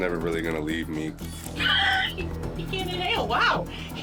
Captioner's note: laughs